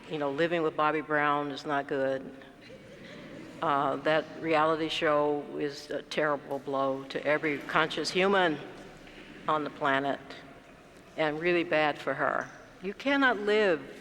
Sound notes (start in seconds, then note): 3.1 laugh